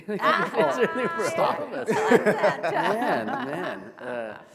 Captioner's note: all laughing